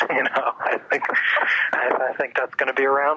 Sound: laughs

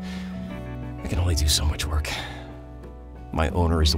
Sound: sigh

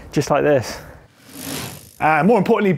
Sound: quick rattle

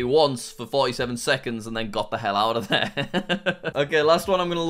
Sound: laughs

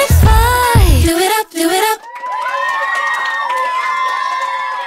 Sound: audience cheering

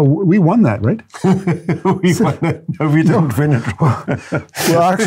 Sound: laughs

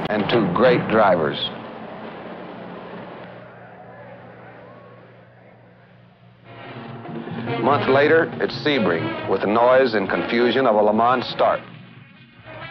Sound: engines rev

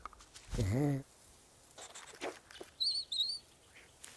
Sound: growling

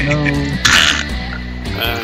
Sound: splat

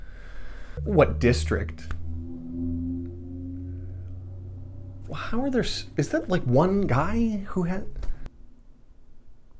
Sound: car revving down street

